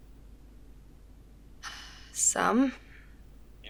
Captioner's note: sighs